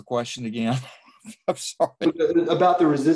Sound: laughs

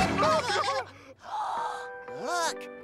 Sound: gasps

